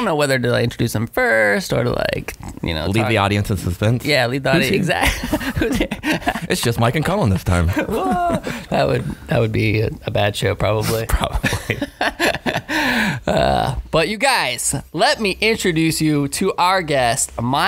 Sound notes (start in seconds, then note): 4.6 laughing